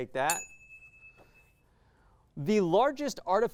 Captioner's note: ding